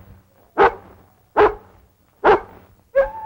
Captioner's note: barking; howling